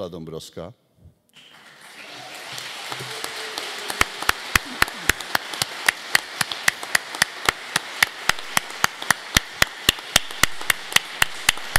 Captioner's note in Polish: oklaski